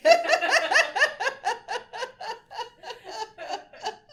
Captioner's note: laughs